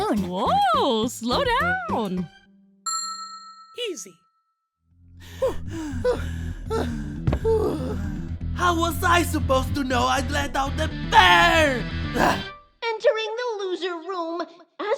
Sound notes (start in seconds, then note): 2.8 ding!; 5.1 panting